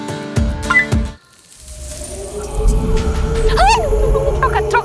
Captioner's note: click; wind